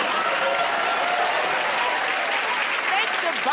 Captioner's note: cheers and applause